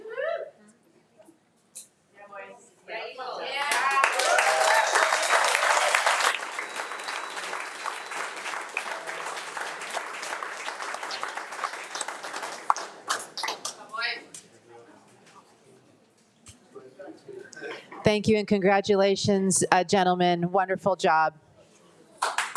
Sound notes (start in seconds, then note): 2.2 attendees chattering; 3.5 attendees clapping; 3.6 attendees cheering; 22.1 attendees clapping